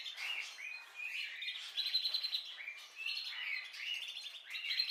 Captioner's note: birds singing